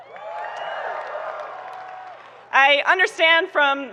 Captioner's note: people cheering